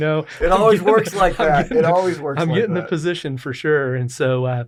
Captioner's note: laughs